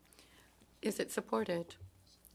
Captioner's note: speaking in French